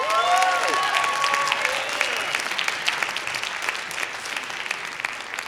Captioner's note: applause